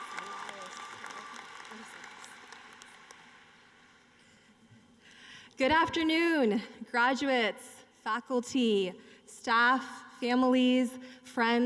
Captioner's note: applause